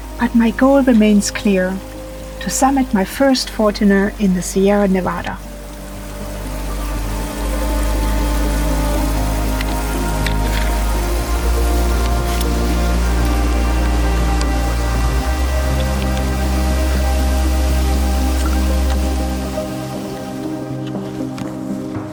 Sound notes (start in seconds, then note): 7.0 water rushing and sentimental music